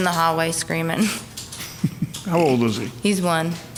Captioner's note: laughing